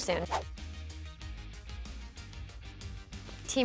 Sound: whooshing

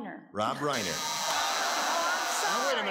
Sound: buzzes; audience ahs

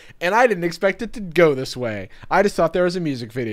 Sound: none

